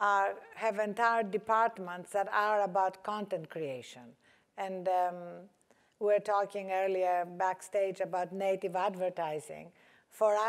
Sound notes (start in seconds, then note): none